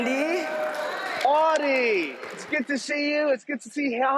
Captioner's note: applause